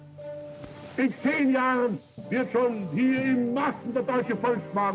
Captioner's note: speaking German